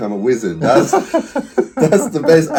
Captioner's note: laughing